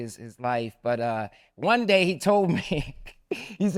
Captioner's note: laughs